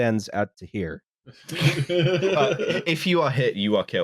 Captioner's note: laughter